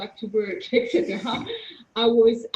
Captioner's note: laughing